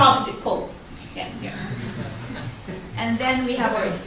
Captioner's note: audience laughs